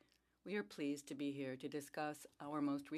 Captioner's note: speaking French